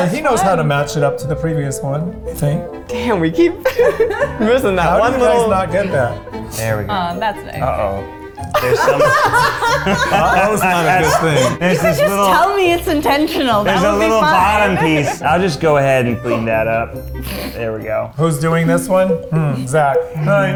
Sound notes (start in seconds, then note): 8.5 everyone laughing